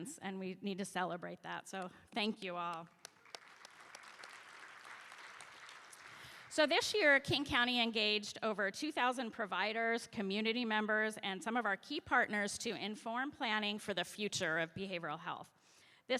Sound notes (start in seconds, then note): 2.2 applause